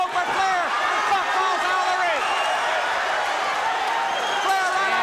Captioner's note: crowd cheering